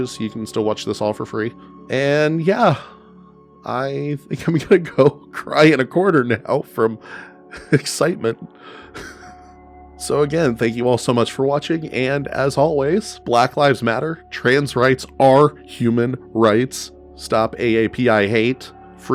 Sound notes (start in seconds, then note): 8.8 exhausted wheezing laughter